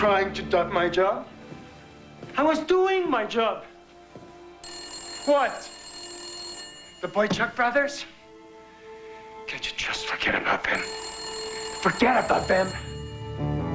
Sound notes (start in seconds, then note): 4.6 ringing of telephone; 10.8 ringing continues